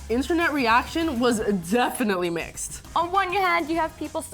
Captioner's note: none